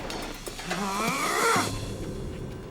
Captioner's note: grunts